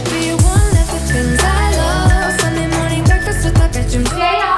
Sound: alarm beeping

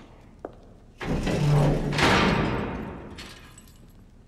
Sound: guard closes cell

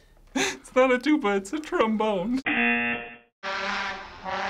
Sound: chuckles; buzzer; trombone imitating engine

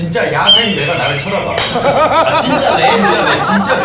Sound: laughter

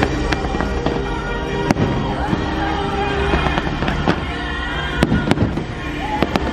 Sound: fireworks popping overpower singing

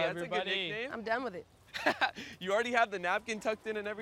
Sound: laughing

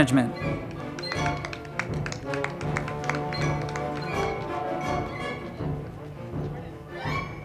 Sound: crowd clapping; band music

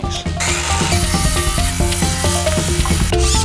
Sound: tools whirring

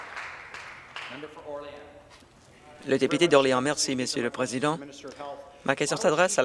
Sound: some Applause

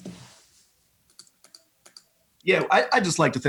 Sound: mouse clicks

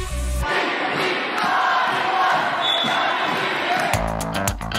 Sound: crowd; upbeat funky music

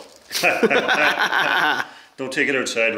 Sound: men laugh

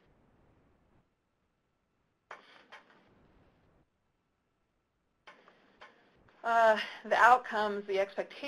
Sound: pause

